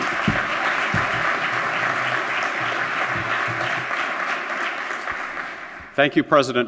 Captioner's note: applause